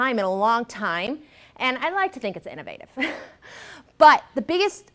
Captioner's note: laughs